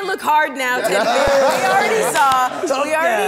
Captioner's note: everyone laughs